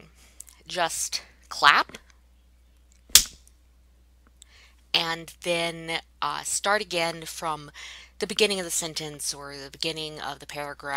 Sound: claps once

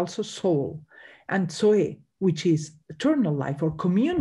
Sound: speaks in Greek

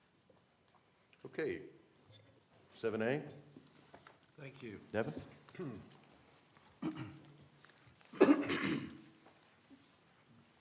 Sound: cough

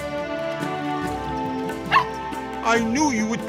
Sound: barking

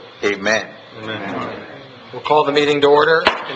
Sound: crowd

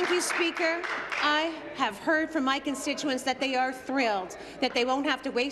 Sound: some Applause

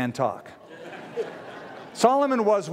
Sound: laughter

